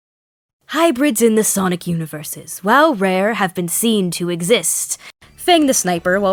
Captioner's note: imitating a Documentary Narrator